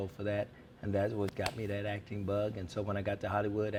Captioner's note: snaps fingers